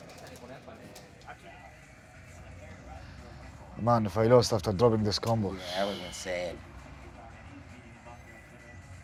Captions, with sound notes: Man, if I lost after dropping this combo... (sighs) That was insane